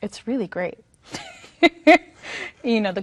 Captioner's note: laughs